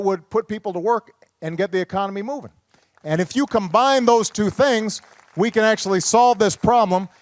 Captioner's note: applause